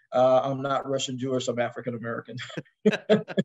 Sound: laugh

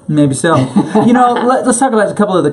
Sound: laughs

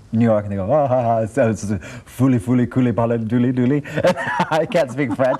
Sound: speaking foreign language; laughing

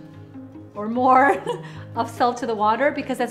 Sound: laughs

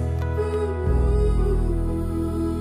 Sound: humming

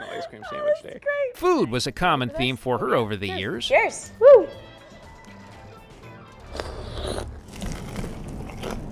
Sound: laughter

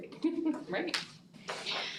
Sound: laughs

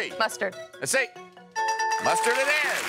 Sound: bell rings

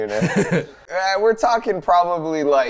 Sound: chuckling

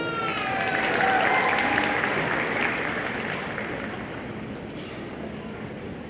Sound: audience cheering and applauding

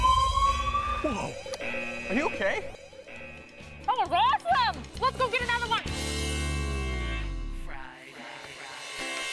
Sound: siren

